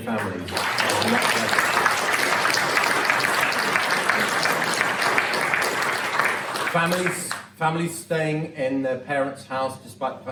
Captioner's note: applause